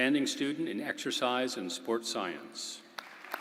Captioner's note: applause